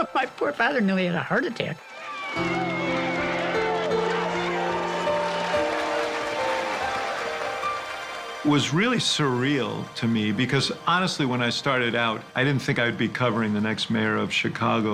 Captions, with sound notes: My poor father nearly had a heart attack. (crowd cheering) - It was really surreal to me because honestly, when I started out, I didn't think I'd be covering the next mayor of Chicago.